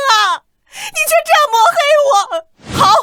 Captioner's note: scoffs